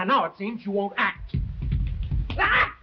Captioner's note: feet stomping; Camila screeches